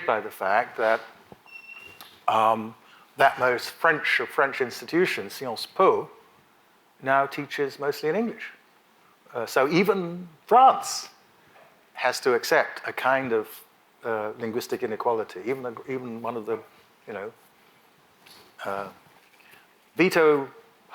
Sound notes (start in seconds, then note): 5.6 speaks in a foreign language